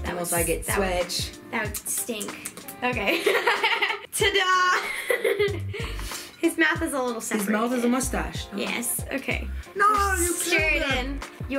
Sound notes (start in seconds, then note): 4.8 laughing